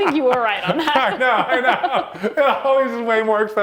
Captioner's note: laughs